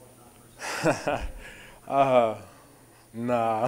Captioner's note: A.J. laughing